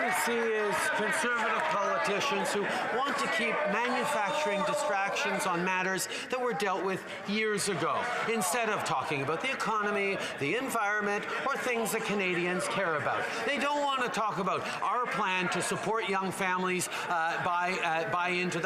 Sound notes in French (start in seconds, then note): 7.0 voix de l'interprète